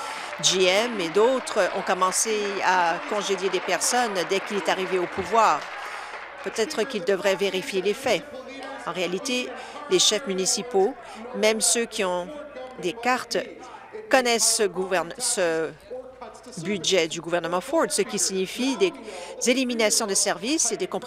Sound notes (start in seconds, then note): 5.4 applause